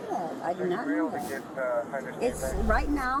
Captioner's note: radio chatter